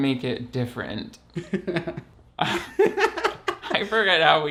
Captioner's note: laughs